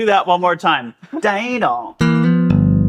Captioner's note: bass guitar humming; vocalizing bass sounds